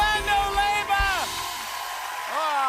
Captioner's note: cheers and applause